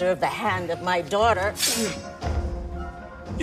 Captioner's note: grunts